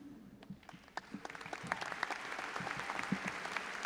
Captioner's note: all applauding